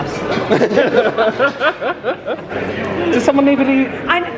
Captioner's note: both laughing